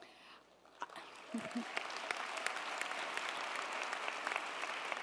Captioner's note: audience applauding